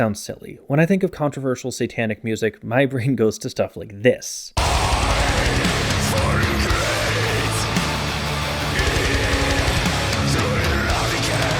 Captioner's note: bang